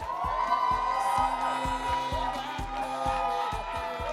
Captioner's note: audience cheers